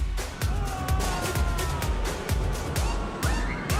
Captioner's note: screaming